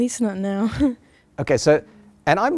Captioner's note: chuckles